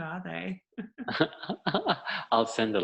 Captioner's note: laughing